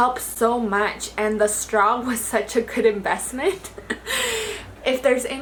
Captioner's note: chuckles